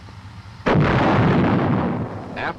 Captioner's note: gun booming